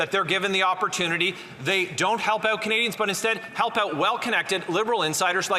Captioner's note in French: voix de l'interprète